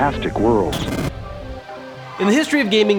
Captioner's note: scratching